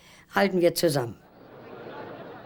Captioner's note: speaking german